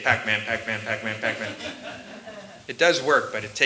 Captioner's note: laughter